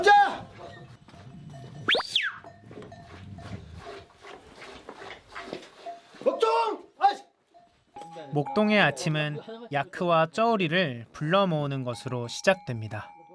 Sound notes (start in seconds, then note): 1.8 whistles